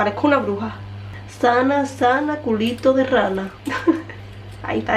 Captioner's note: laughs